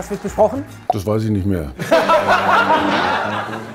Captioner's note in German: Lachen